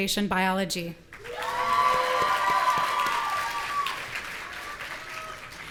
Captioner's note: audience cheering